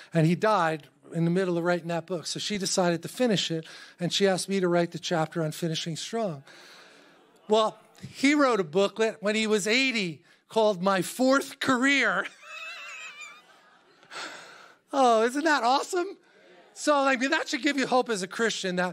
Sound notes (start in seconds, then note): 12.3 laughs